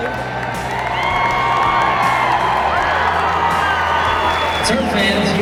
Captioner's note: cheers and applause